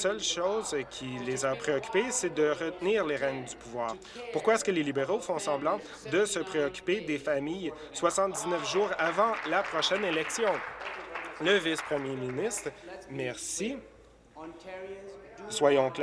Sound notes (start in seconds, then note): 11.5 applause